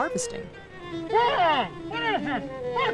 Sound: mumbling

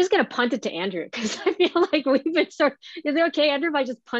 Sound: laughing

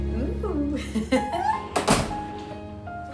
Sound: chuckles

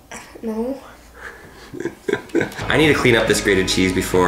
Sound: laughs

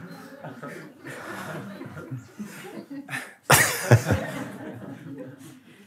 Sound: laughter

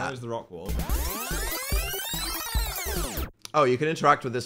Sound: tape fast-forward sound plays

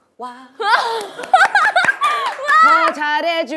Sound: applause

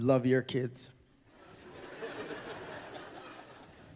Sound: laughter

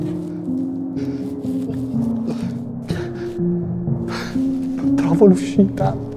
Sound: panting

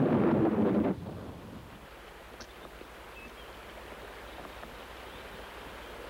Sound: water rushing and birds chirping

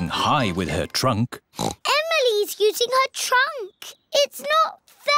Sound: oinks

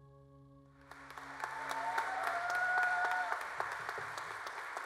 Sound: applause

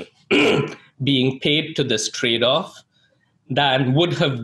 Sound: clears throat

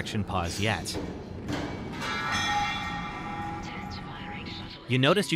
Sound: tools fall

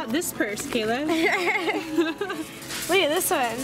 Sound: giggles

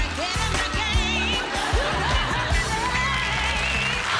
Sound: applause

